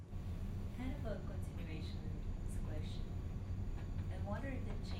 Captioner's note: woman asking question